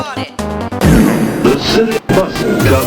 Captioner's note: fart with extra reverb